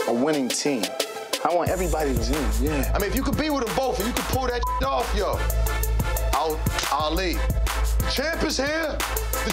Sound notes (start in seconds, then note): 4.6 beep